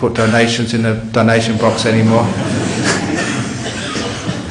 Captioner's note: laughter